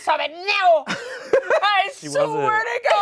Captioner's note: all laugh